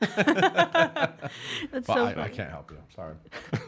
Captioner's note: laughs